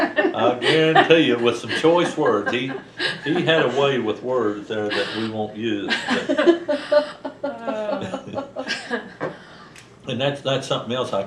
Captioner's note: laughter; laughter